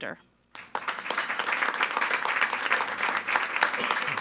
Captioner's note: all applauding